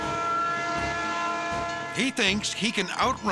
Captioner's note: train horn blares